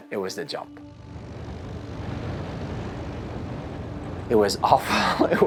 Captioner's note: air whooshing